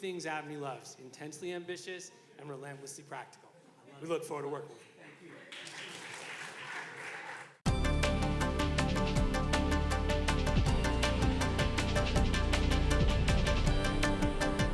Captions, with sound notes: >>Just a final note, I want to thank the chancellor for being two things ABNY loves, intensely ambitious and relentlessly practical, we look forward to working with you. (audience clapping) (upbeat energetic music)